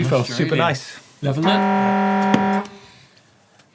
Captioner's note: buzzer sounding